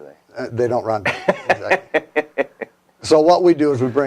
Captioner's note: laughs